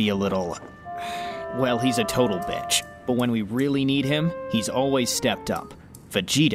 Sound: sigh

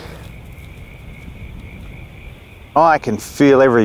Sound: distant frogs

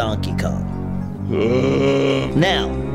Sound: Mario groans

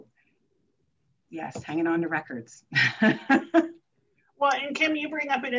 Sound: chuckles

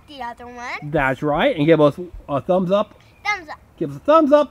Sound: voiceover

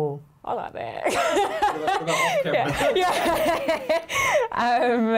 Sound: Chlöe laughs

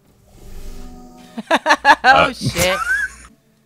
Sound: cackles

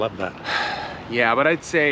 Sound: sighs

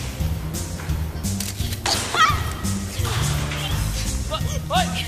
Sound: camera shutter clicks

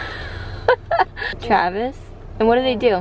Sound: laughing

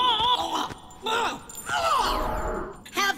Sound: gurgling noises

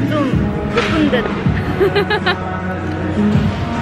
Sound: laughing

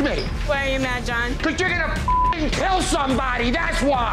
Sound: beeping

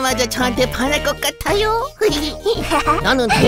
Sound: giggles

